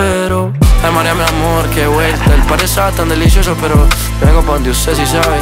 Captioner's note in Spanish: Jajaja